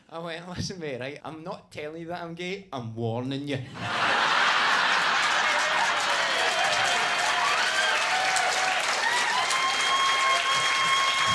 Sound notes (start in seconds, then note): 3.7 audience laughing, clapping, and cheering